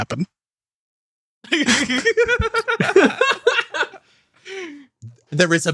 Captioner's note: laughs